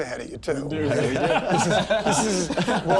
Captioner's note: laughs